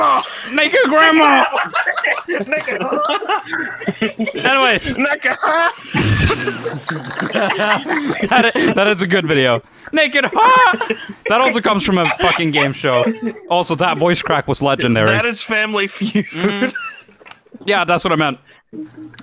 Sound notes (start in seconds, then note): 0.0 group laughter; 5.3 more laughter; 10.5 voice crack